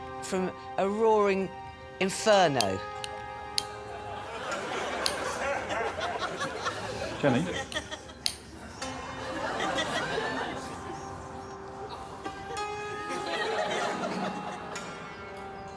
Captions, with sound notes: Gonna save this caravan from a roaring inferno. [audience laughing] Jenny?